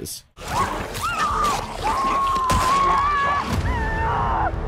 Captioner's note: character screaming